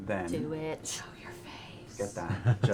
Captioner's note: whispering